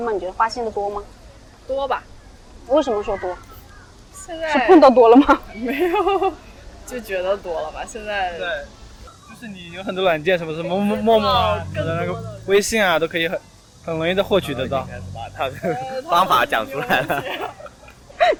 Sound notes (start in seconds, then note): 9.0 chatting